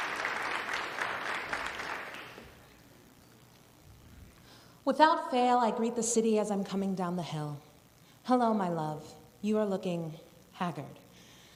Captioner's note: applause